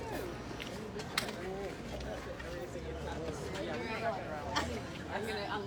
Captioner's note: people talking in the background